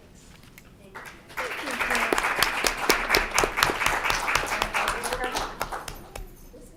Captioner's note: applause